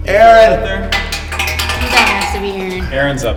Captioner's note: clattering